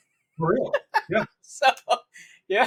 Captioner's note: laughs